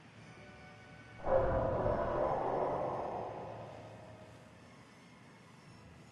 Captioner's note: distant explosion